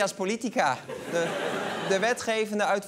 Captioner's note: laughter